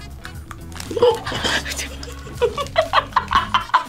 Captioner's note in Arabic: كلاهما يضحك